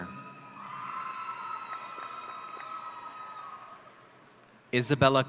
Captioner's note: audience cheering